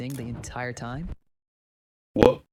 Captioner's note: audio cuts out